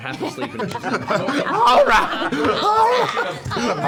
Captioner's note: laughter